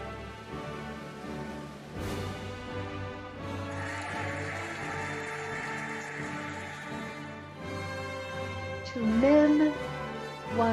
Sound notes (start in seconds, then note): 3.7 cheering and applauding